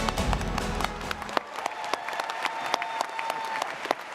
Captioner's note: dramatic music; audience applauding